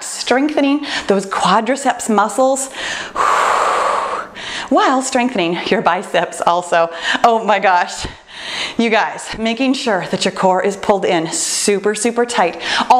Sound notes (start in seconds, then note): 2.7 exhales